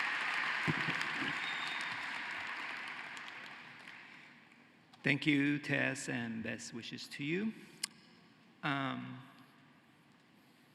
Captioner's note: cheering and applause